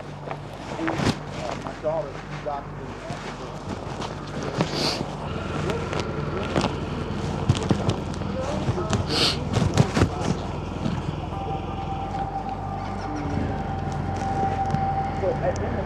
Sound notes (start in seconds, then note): 0.2 dramatic music; 1.6 murmurs